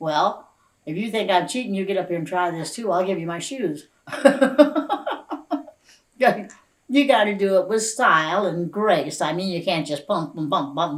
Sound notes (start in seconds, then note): 4.1 laughs